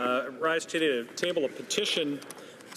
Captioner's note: speaking French